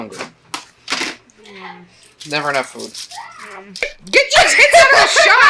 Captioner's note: child: om nom nom